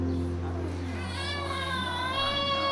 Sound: baby crying

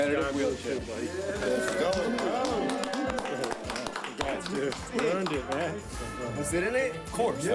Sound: applause

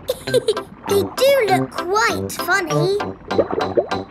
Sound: laughs

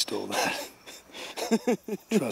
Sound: Barry laughs

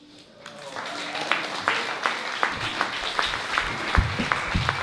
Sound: applause

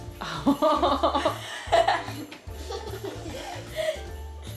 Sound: laughing

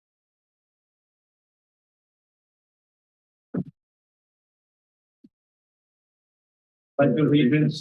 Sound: silence

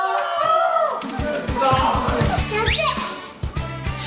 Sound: screaming

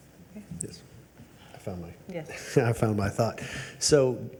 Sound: chuckles

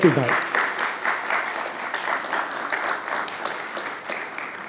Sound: applause

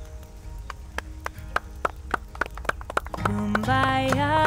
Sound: clapping

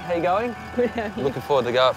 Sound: laughs

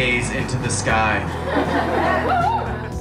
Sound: laughter; soft upbeat rock music

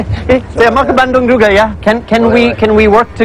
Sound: speaking indonesian

